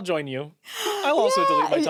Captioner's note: gasps